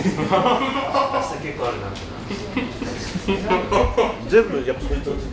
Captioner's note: laughs